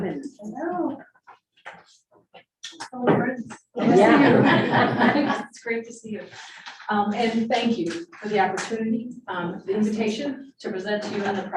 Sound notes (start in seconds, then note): 3.8 group laughing